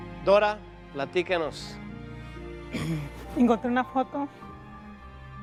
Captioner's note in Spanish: Carraspea